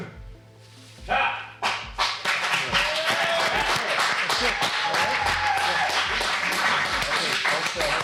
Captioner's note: applause